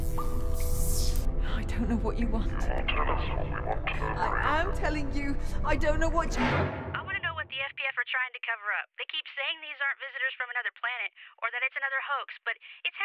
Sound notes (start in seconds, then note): 0.0 beeps and buzzes; 6.1 metallic sound